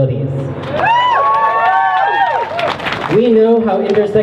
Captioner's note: crowd cheers